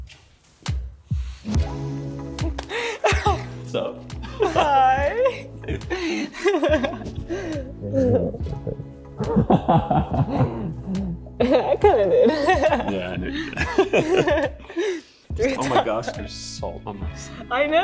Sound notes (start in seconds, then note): 0.2 rhythmic music; 2.4 laughs; 14.1 both laughing